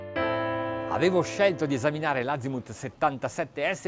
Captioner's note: speaking foreign language